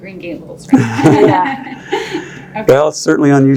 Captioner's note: laugh